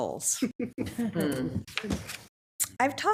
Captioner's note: attendees laughing